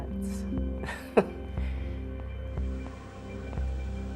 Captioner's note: laughs